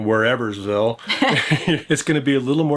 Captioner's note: both laughing